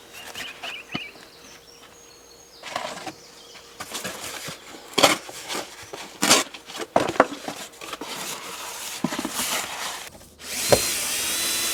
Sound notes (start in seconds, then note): 3.8 tearing cardboard; 10.4 drilling